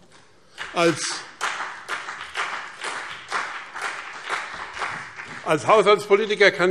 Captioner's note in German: Beifall BÜNDNIS 90/DIE GRÜNEN und vereinzelt CDU